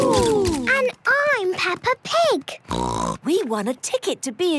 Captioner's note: snort